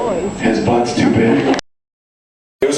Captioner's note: whispers